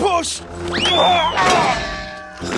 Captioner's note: bonk